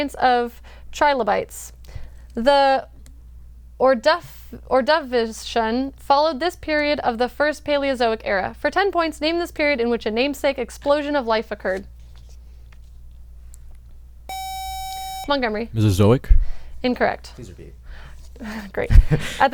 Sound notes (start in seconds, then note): 14.3 buzzer